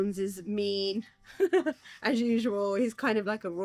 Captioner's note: laughs